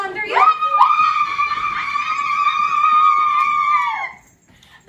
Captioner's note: fairies screaming